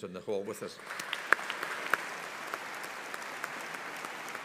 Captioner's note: audience applauding